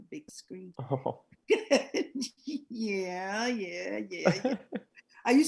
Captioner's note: chuckling